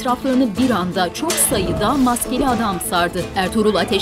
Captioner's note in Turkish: Bağrışmalar